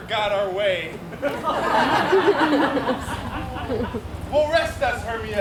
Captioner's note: audience laughs